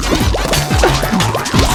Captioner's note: laughs to myself